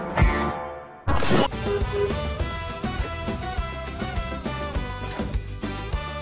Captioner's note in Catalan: dos tocs de botzina consecutius